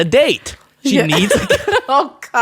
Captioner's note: laughs